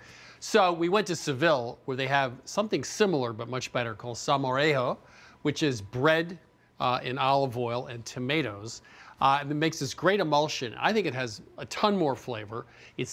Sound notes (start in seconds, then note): none